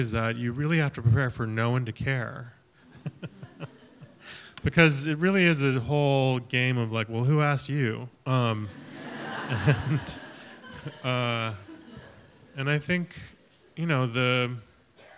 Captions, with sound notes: is that you really have to prepare for no one to care. (laughing) because it really is a whole game of like, "Well who asked you?" (audience laughs) And I think, you know,